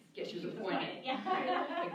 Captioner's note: laughter